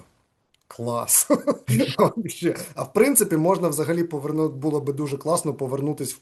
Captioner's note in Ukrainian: сміється